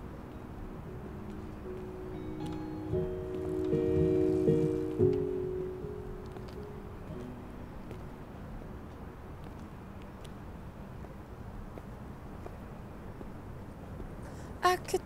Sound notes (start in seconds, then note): 6.0 music fades; 7.8 footsteps